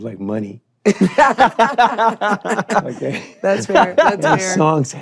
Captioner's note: all laughing